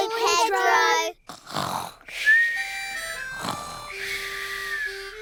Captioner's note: all snoring